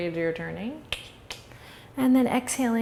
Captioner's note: clicks tongue